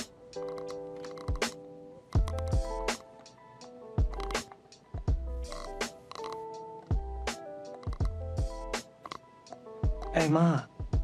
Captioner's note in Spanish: molido de dientes